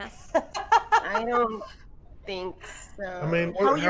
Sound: game Master laughs

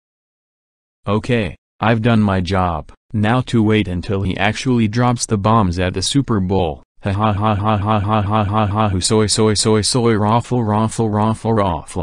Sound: in normal voice

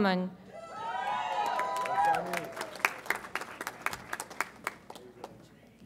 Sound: audience applauds and cheers

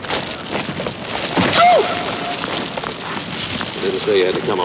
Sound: Myra screaming

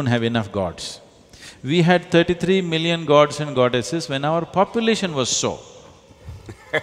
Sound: laughter

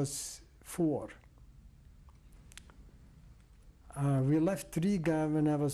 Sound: pauses for 3 seconds

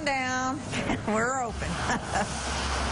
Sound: laughs

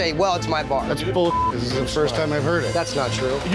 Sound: beep

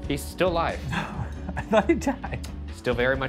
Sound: chuckles

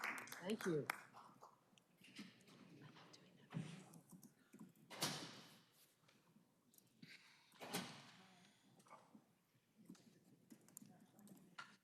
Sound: applause

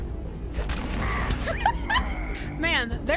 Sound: laughter

